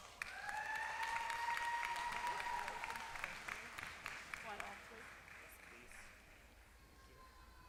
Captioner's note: applause